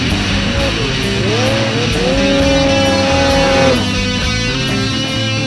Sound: snowmobile engine roaring

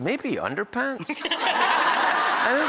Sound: laughter

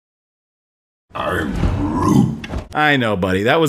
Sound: dissaproving tree arnold noises

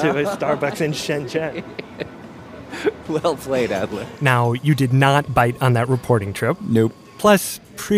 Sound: laughs

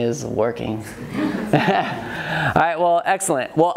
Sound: audience laughs

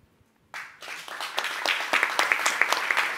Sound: applause

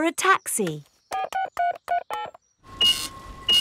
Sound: dialing; cash register beeping

